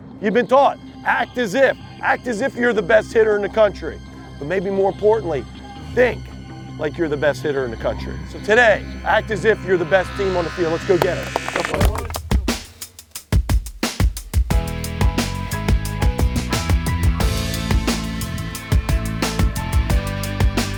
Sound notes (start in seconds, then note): 11.8 applause; 12.3 rock music